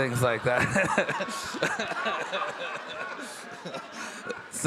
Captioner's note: all laughing